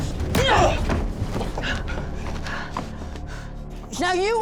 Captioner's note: breathing heavily